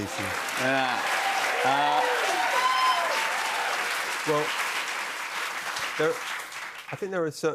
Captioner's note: cheers and applause